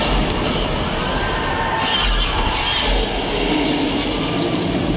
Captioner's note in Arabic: ناس يصرخون